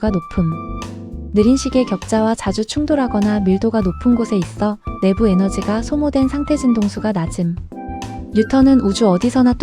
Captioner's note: high frequency